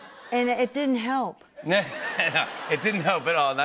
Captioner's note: laughter